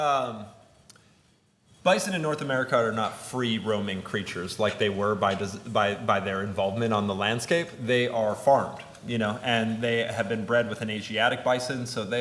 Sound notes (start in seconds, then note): none